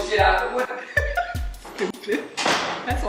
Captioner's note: laughing